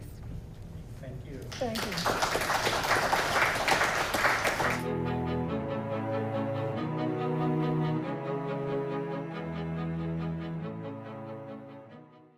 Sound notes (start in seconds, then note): 1.4 audience Clapping